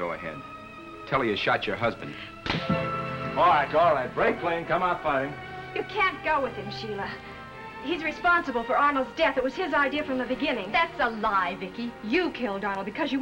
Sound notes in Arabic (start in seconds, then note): 0.2 بسخرية; 2.4 صفعة